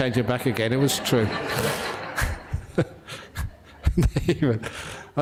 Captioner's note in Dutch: lachen